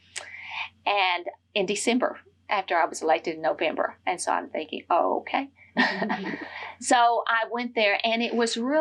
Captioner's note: laughs